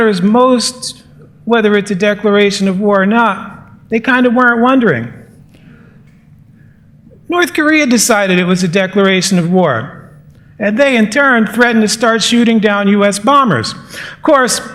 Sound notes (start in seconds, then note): none